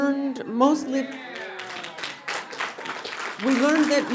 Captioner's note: audience applauding